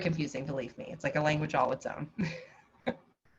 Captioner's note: chuckles